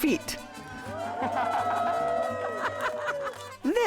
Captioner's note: all cheering, laughing